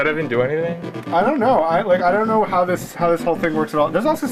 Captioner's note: stammering